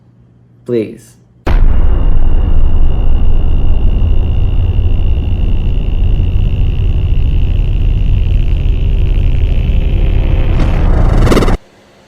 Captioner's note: drone